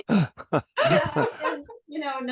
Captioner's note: laugh